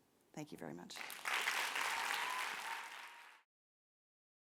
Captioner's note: applause